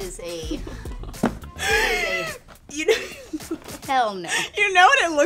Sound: laughing

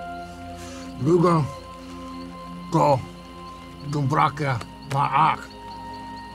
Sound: V'rugga speaks gibberish

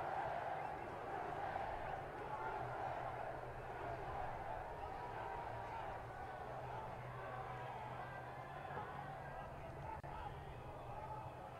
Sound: crowd chanting "usa"

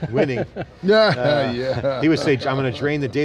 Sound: laughing

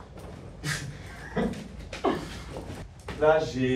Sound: laughs

